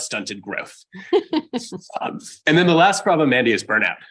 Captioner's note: laughs